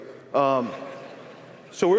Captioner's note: laughter